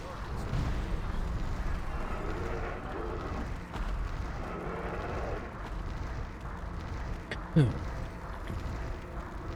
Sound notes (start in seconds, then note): 7.4 laughs